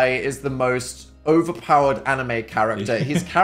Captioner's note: Phil laughs